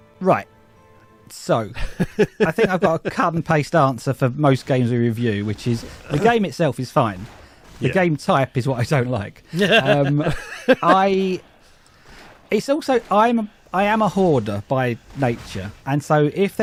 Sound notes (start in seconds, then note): 9.5 laughs